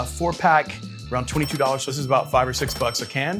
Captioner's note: register bell rings